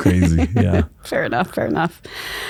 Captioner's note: laughs